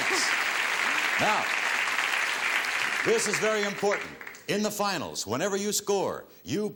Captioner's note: applause